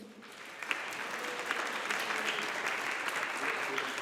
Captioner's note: audience applauding